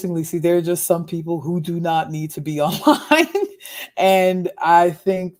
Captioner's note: laughs